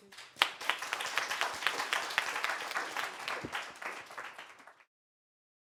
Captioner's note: applause